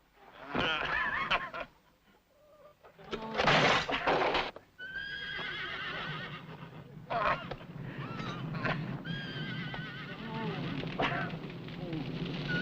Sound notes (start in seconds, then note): 0.4 laughing; 7.0 grunting